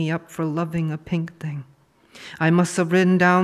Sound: none

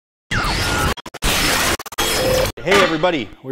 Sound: electricity whirring

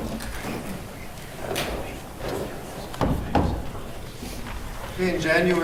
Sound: rustling and movement

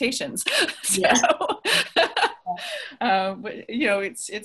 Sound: everyone laughs

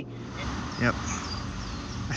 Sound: over recording

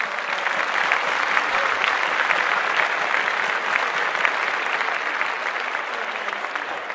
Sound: applause

